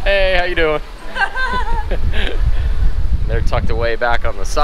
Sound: laughing

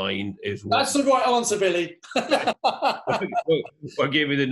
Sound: laughs

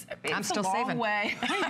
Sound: laughter

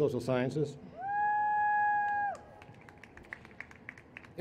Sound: cheers

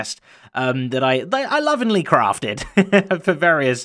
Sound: chuckles

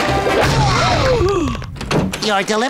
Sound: gasps

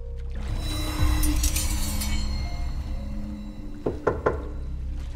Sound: blades clang; knock at the door

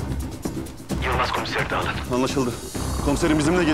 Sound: Wireless Metin voice

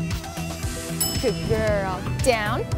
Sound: bell dings

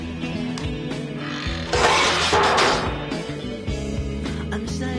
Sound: door slams

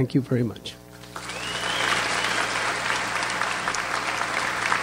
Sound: audience applauds

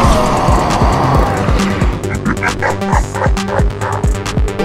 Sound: laugh

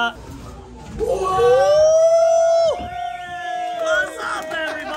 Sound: group yells and cheers

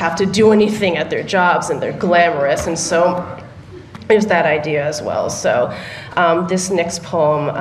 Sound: laughter

